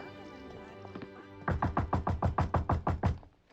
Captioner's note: door knocks